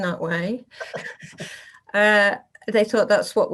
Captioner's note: both laugh